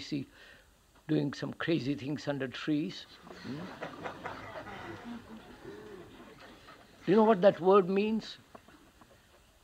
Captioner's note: laughter